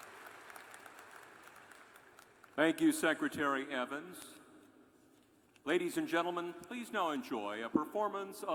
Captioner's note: applause